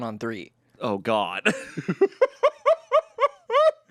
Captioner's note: laughs